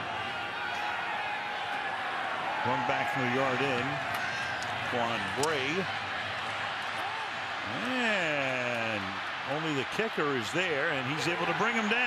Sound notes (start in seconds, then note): 1.7 cheers, applause